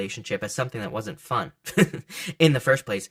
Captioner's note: laughs